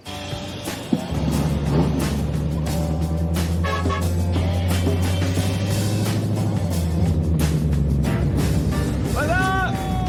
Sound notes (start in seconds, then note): 3.4 horn honks